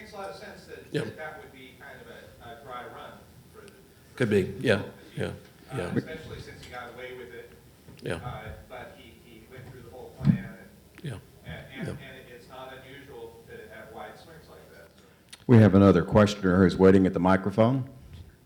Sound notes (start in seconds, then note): 3.1 faintly speaking